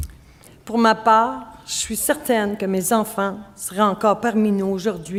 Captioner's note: speaking French